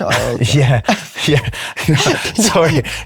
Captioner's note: laughs